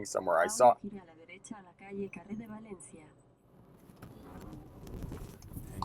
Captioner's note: ghostly voice speaking Spanish